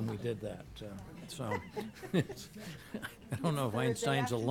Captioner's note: laughing